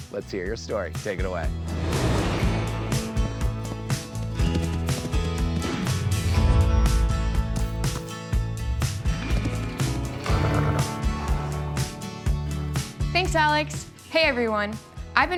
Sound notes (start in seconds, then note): 2.5 gentle country music; 2.6 horse galloping